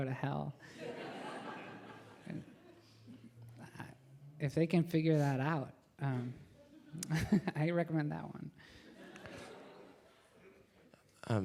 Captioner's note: laughter